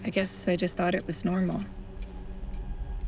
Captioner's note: none